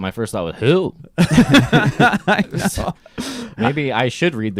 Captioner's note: laughing